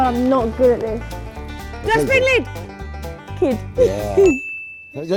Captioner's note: laughing